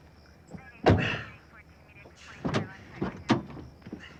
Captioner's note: chattering over police radio